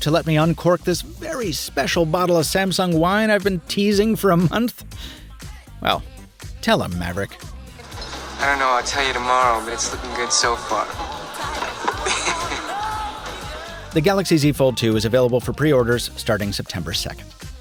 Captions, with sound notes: to let me uncork this very special bottle of Samsung wine I've been teasing for a month? Well, tell him Maverick. - I don't know. I'll tell you tomorrow but it's looking good so far. (laughs) - The Galaxy Z Fold 2 is available for pre-orders starting September 2nd.